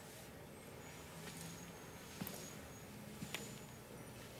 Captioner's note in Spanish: none